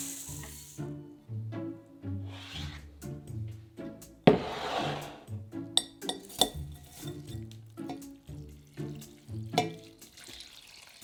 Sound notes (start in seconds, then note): 4.2 bowl sliding; 9.0 water pouring